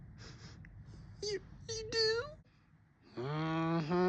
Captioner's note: sniffles